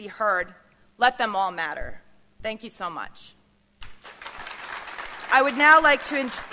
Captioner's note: applause